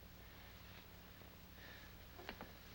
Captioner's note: none